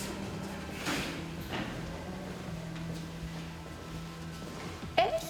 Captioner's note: metallic door closing. Footsteps